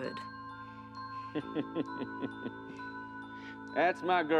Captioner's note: laughs